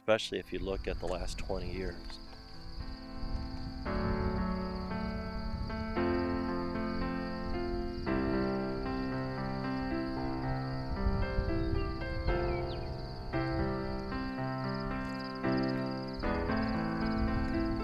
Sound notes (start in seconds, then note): 2.6 crickets chirping; 2.6 soft uplifting music; 11.1 bird chirps